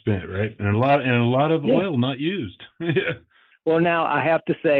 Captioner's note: chuckles